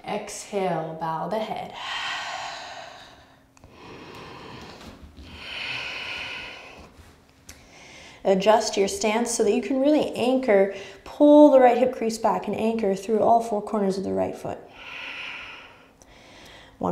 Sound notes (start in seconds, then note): 3.6 heavy breathing